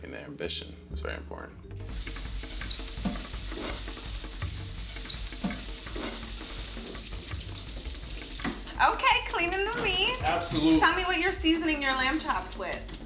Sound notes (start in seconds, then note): 1.9 water splashing; 2.1 percussion music